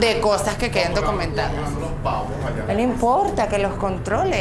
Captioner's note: laughs